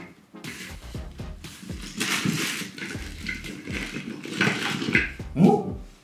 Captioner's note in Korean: 아마도 가방 쏟는 소리